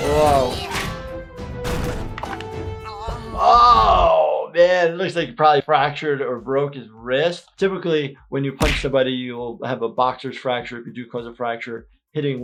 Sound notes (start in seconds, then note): 0.0 Captain Grime yelling; 0.1 Hop Pop grunting, blow landing; 1.8 creature crashing, bone cracking; 2.9 both groaning